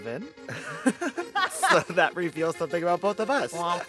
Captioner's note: laughter